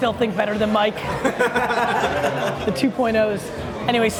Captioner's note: all laugh